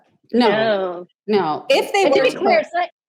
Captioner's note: laughs